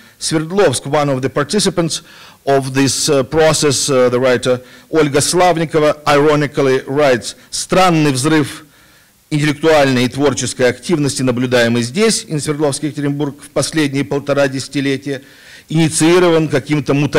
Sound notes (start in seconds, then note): 7.5 non-english speech